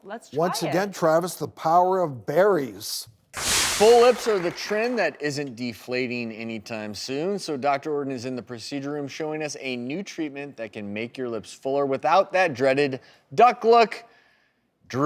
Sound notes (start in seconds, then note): 3.3 whooshing; 4.2 clapping